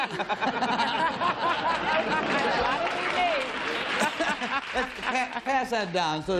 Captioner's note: laughter